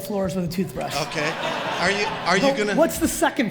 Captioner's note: audience laughs